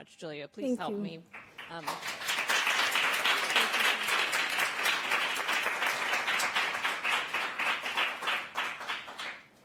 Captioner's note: applause